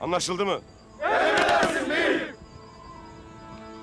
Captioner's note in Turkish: Hep bir ağızdan